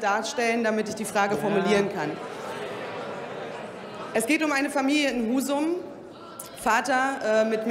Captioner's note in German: Widerspruch bei der AfD sowie bei Abgeordneten der CDU/CSU und der FDP